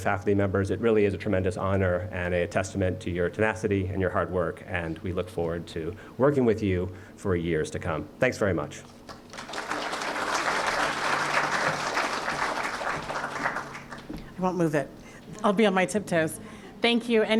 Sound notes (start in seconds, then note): 9.0 applause